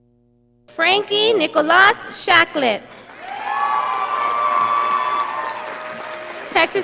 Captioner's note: audience applauding